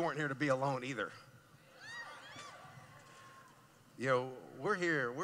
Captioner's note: cheering